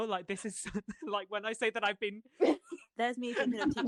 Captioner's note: laughter